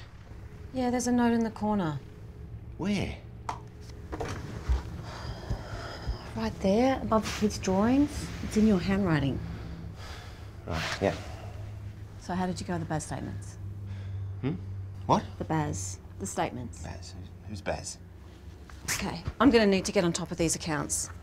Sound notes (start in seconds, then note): 5.0 sighs